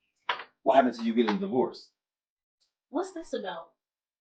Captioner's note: door opens